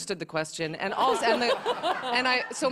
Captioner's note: laughter